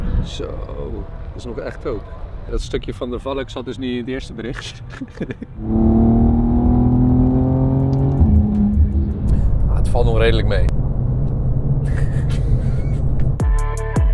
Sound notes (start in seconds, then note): 4.8 laughs; 5.8 car noises